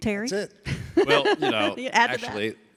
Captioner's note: laughs